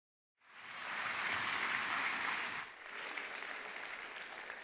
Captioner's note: applause